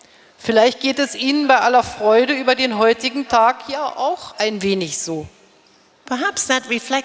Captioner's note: speaking in German